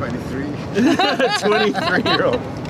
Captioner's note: laughter